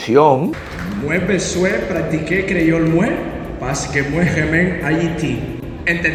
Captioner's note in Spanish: Hablando en creole